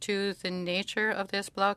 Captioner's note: speaking French